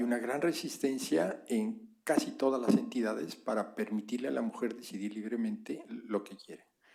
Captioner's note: spanish